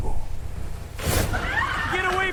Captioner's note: screams in fear